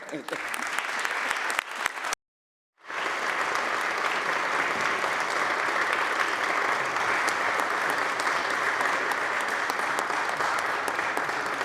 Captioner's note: applause